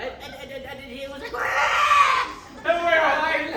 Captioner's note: deranged Dinosaur Noises